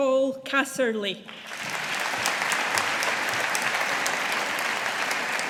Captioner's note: audience applauding